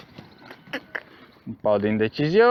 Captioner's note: cluck